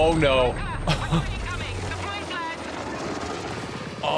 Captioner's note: laughs